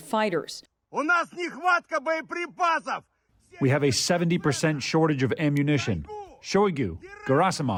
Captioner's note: through translator